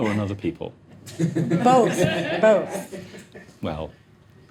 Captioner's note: audience laughing